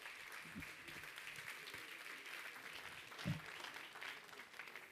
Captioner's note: applause